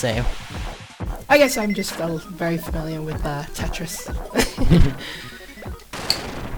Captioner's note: laughs